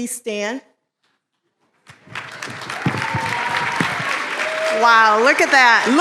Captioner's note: applause